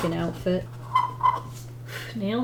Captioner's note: pencil squeaks